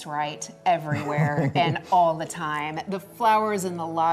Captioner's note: laughs